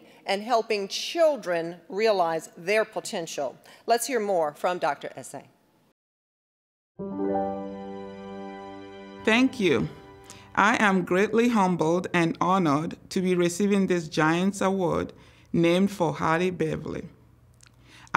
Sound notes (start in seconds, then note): 7.0 gentle music; 9.2 with Nigerian accent